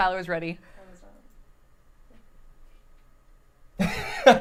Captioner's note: laughs